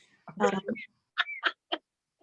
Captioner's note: laughter